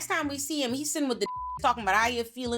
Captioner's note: beep